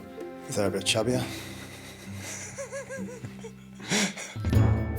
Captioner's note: laughs; interviewer laughs; lively music